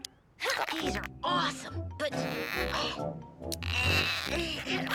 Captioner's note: Milo grunting